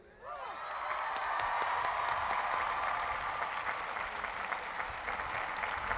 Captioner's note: cheering and applause